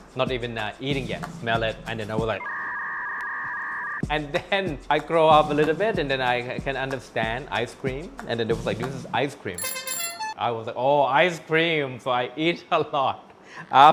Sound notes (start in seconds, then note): 2.4 internet dial-up tone